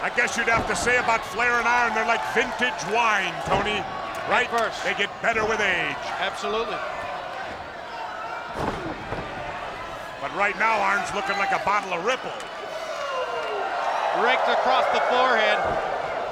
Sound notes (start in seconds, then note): 8.4 body thudding